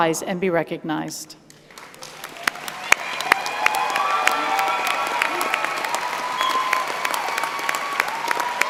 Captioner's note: applause